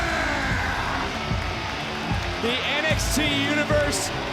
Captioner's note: audience cheering and applauding